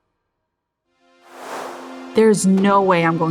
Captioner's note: logo whooshing; graphic whooshing